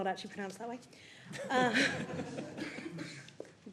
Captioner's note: laughter